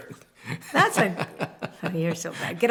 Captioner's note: laughter